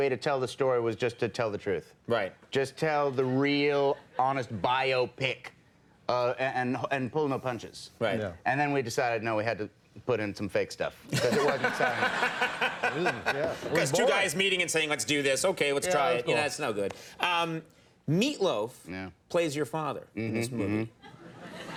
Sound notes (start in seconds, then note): 11.1 crowd laughing